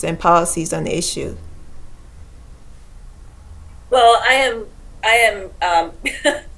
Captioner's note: laughs